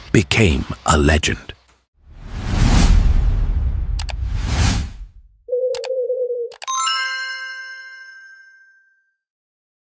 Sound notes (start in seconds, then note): 2.1 whooshing